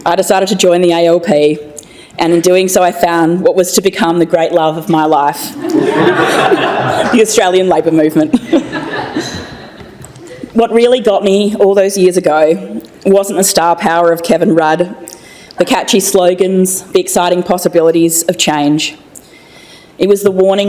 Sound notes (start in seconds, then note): 5.6 laughter